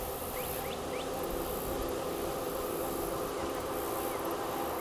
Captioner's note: insects buzzing; birds chirping